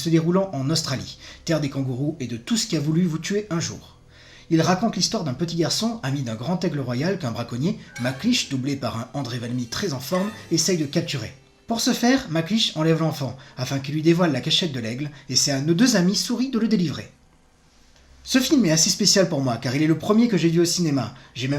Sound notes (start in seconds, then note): 10.2 in french